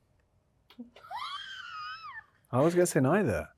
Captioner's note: Yerin laughing